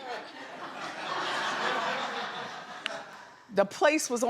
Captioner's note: audience laughs